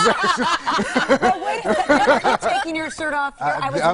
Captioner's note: laughter